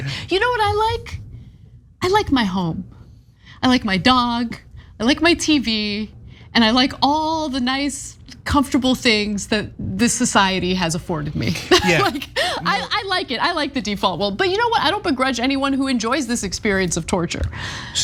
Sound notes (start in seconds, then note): 11.7 laugh